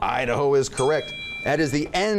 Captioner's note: bell dings